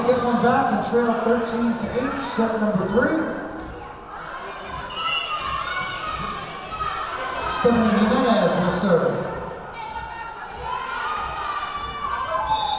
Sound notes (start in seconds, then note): 4.9 whistle blowing; 8.1 yelling